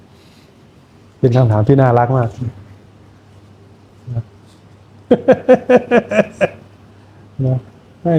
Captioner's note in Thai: เสียงหัวเราะ